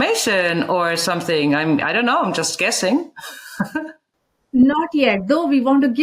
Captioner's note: laughs